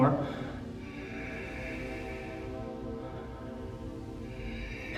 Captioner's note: breathing